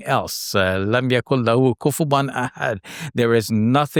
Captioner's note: speaks in foreign language